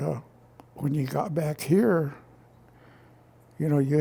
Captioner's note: none